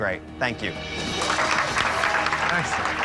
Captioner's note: cheers and applause